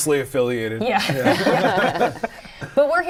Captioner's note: laughter